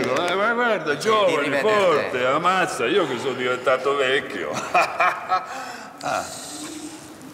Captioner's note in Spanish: Risas